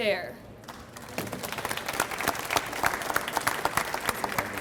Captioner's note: audience applauds